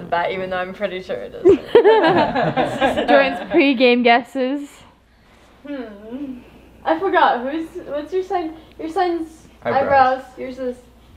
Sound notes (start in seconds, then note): 1.5 everyone laughing